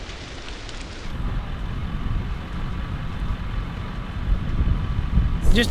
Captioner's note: soft crackling fire; purr of soft engines